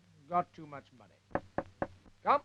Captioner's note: door knock